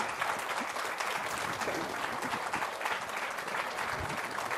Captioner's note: applause